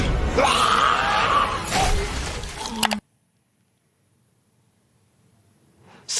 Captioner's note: ominous music; villain screams; keys clack; blood splatters